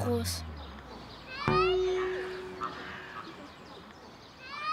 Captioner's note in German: Tiergeräusche, Kinderstimmen